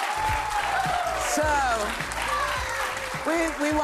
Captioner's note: cheers and applause